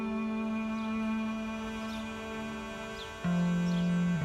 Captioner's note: birds chirping